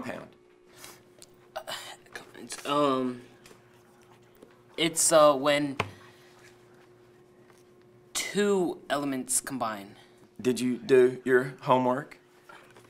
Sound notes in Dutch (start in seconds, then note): 3.8 stottert